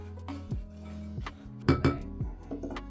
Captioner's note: bright subtle music; spoon clanging; bright subtle music